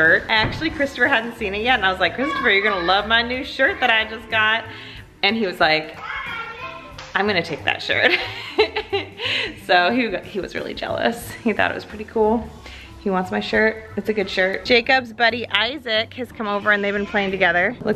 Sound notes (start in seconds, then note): 8.0 laughs